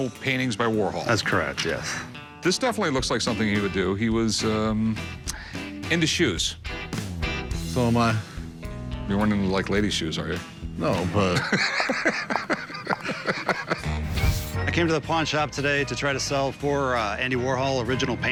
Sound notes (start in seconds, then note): 11.3 laughs